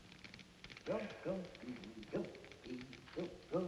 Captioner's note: humming